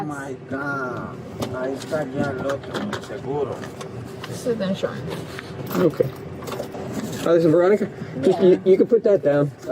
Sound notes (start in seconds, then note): 1.4 man speak in Foreign language